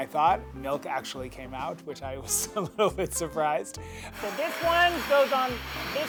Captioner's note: laugh